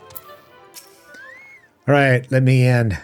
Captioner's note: whistling